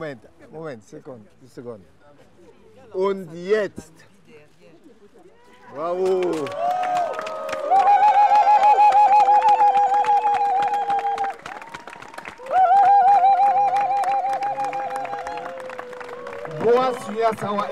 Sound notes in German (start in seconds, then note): 6.8 klatschen